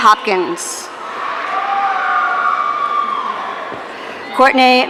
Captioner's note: audience cheering